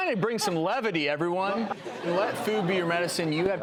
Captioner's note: laughter